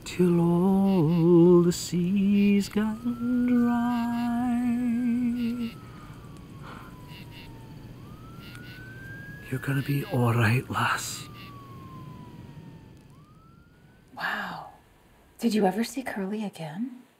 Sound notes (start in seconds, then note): 5.6 sirens blaring